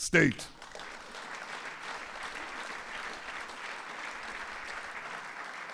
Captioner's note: applause